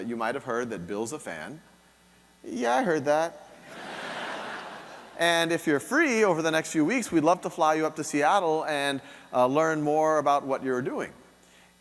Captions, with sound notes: you might have heard that Bill's a fan. Yeah, I heard that. (audience laughing) And if you're free over the next few weeks, we'd love to fly you up to Seattle and learn more about what you're doing.